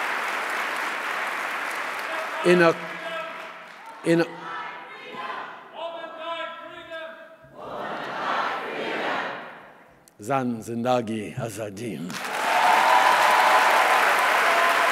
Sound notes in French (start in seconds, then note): 2.2 Applaudissements; 2.2 Chant de l’auditoire en arabe